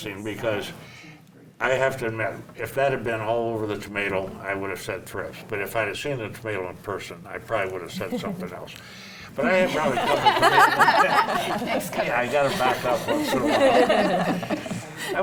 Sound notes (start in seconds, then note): 9.6 panel laughs; 11.4 faintly speaking; 12.4 panel laughs